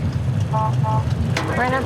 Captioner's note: horns honking